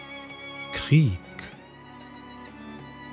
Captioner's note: german